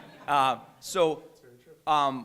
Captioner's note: laughter